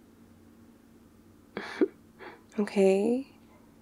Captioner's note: laughs